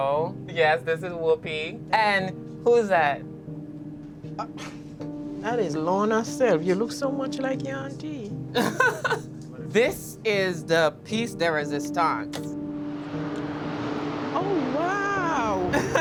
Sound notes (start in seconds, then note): 8.6 laughs